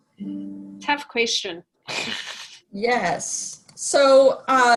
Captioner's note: laughs